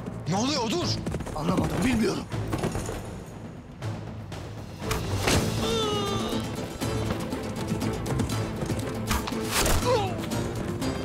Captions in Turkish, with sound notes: -Ne oluyor Odur. -Anlamadım. Bilmiyorum. (Ok fırlatma sesi) (İnleme sesi) (Ok fırlatma sesi)